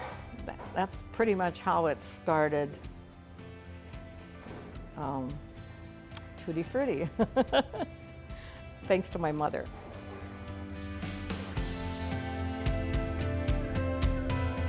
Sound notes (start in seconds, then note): 7.1 laughs; 10.2 lighthearted music